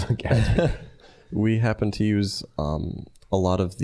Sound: laughing

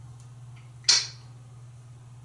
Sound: smacking sound

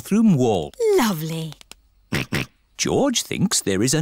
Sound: snorts

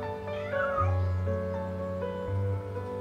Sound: cat meowing

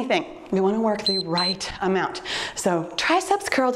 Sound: timer beeps

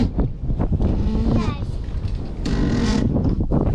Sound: creaking

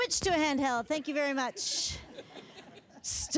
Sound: audience laughter

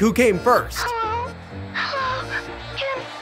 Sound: voice On Walkie

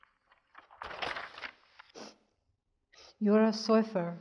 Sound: paper rustles

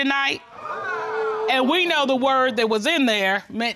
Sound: audience exclaims

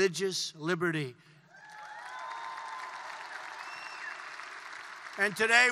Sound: applause

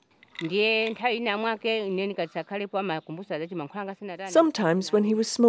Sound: speaking foreign language

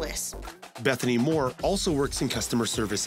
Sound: voiceover

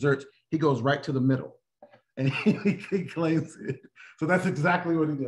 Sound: laughter

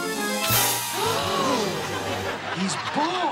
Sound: stirring music; everyone gasps

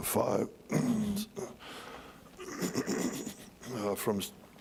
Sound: clearing throat

